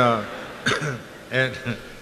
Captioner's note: crowd laughs; coughs; chuckles